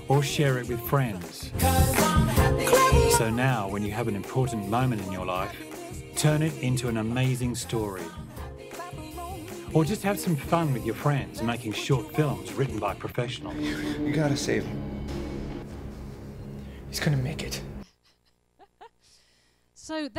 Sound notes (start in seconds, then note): 14.4 voiceover; 17.9 laughter